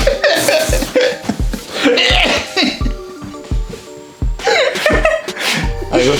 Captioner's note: laughing